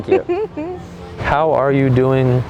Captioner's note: chuckles